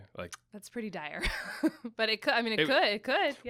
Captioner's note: laughs